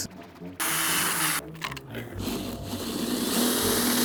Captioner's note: drill whirring